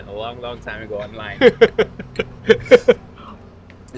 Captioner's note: laughs